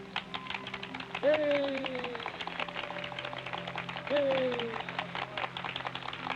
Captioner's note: audience applauding